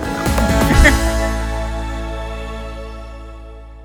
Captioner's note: laughs